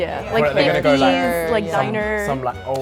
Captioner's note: group chatter